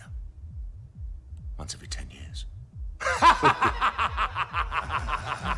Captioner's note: laughing